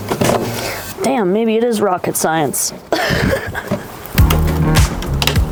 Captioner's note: laughs